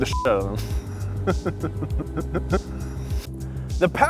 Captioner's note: laughs